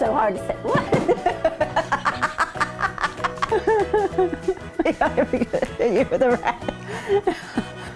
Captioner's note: laughing